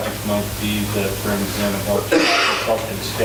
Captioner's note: coughing drowns out words